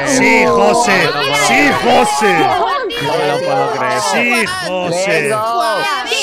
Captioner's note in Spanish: gritan